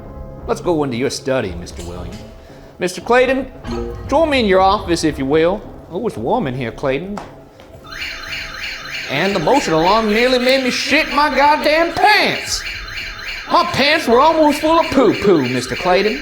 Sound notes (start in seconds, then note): 7.7 motion alarm wailing